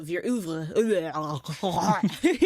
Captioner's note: gagging in French